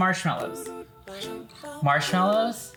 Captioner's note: whispering